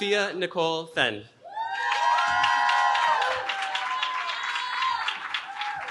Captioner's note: cheering